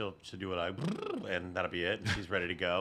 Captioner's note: makes sputtering noise